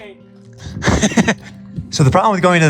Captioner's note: laughs